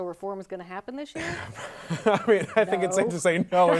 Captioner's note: laughing